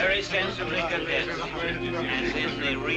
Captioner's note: all chattering excitedly